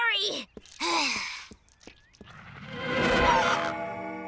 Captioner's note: sighing